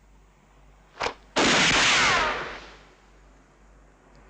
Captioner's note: gun fires